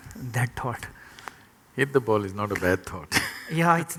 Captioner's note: laughs